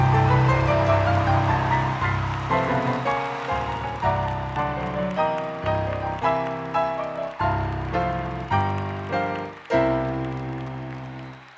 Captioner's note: loud Applause